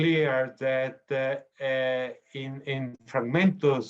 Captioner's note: speaking foreign language